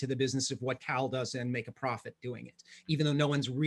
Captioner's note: faintly speaking